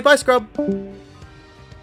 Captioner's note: discord disconnect sound